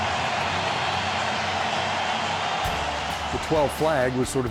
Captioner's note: fans cheering